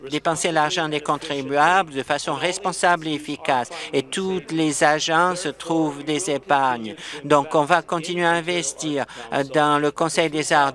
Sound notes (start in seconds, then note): none